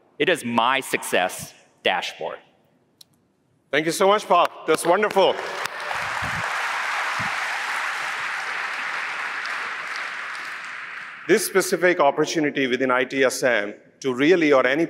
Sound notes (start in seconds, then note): 4.7 applause